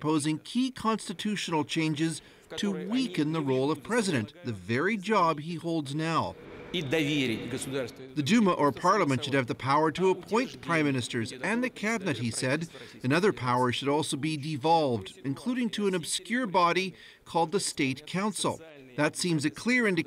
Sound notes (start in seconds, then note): 10.4 speaking foreign language